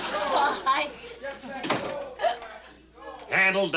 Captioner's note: chanting outside